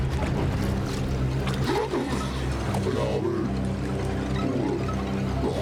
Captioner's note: speaking alien language